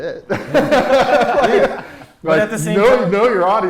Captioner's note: laughter